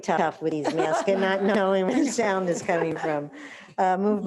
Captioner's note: trustees laughing